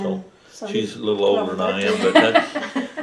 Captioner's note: laughter